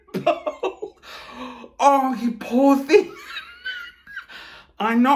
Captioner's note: chuckling